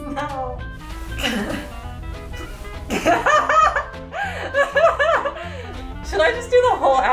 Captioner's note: laughing